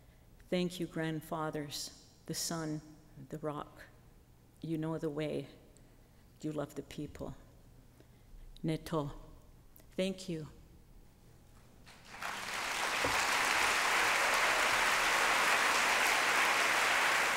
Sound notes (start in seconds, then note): 8.8 speaking her native language; 11.8 applause